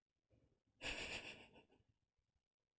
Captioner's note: chuckles